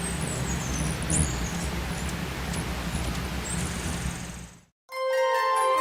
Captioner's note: birds singing and chirping